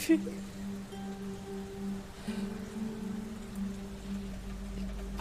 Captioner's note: thunder rumbling